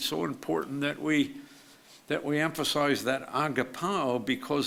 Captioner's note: speaks foreign language